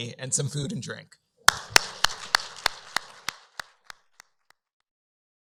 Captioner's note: applause